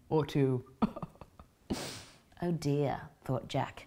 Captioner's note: chuckles